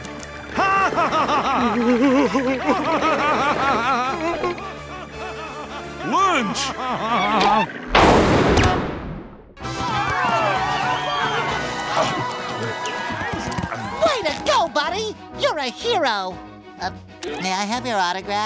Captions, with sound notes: [laughing] Lunch. [popping] [cheering] Way to go, buddy. You're a hero. May I have your autograph?